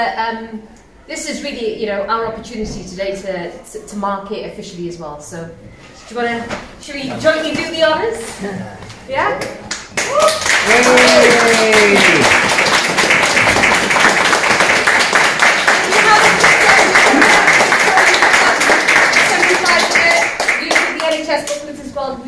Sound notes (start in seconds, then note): 7.9 applause